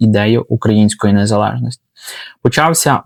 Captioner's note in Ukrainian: сопіння